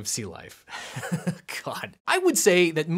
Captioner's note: laughing